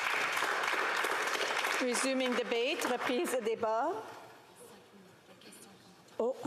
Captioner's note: applause